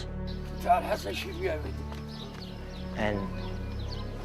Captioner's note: man speaking in Arabic